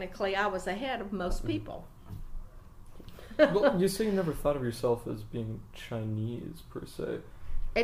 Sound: laughs

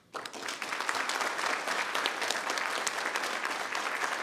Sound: people clapping

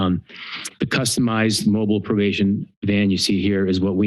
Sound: clicks tongue

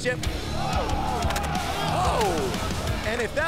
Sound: crowd exclaims

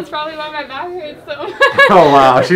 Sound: laughs

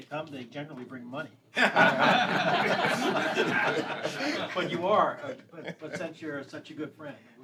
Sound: laughter

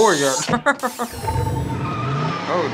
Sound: chuckling

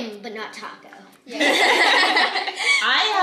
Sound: family laughing

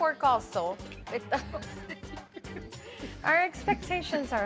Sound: laughing

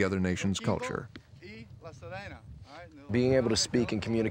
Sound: speaking in a foreign language

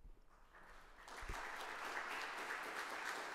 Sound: applause

